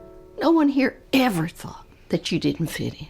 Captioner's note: none